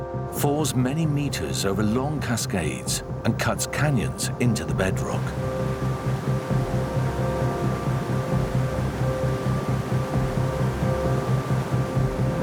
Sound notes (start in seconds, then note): 6.0 water rushing